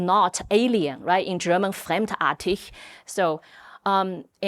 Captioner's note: speaking German